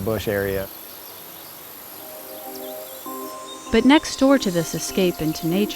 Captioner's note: birds and insects chirping